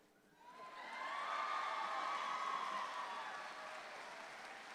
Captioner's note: audience applauds louder